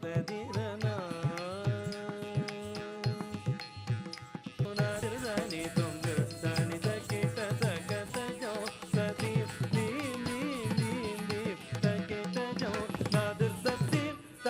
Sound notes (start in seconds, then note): 4.6 ghungroo bells tinkling; 4.8 upbeat music continues